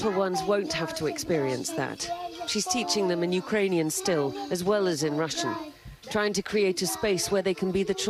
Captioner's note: speaking foreign language